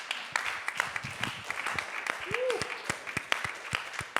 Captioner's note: audience applauding